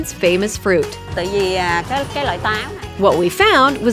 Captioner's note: speaks Vietnamese